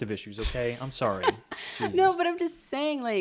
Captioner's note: laughs